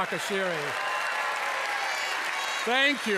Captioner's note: cheers and applause